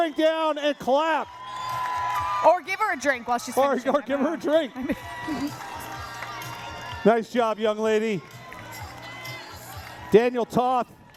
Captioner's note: cheering